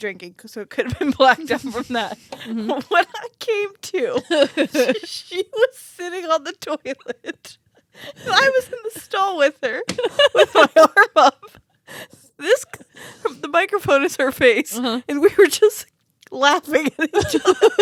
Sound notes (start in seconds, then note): 9.8 hand thuds; 16.8 laugh